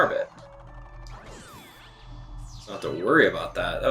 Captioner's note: gaming sounds